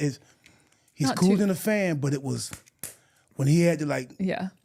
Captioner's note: clapping